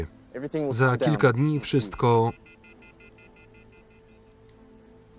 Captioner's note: disengaged signal on phone